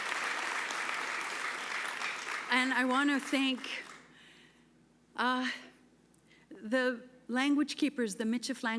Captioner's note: applause